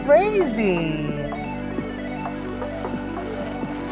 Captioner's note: blowing